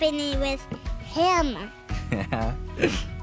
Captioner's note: chuckles